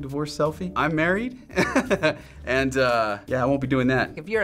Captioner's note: laughing